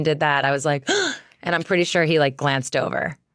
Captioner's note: gasps